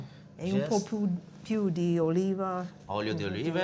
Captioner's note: speaking italian